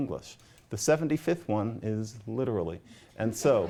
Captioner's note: laughter